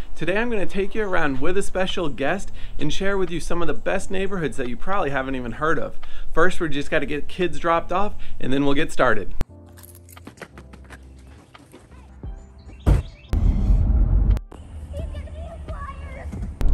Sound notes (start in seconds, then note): 9.6 footsteps; 9.6 keys jingling; 12.9 car doors shutting; 14.8 kids playing